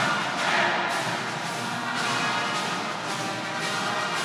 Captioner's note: attendees cheering